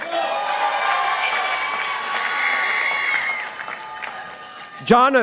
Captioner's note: participants applauding